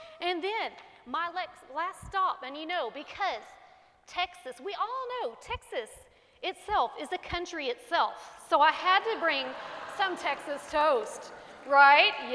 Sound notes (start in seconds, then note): 9.0 congregation laughing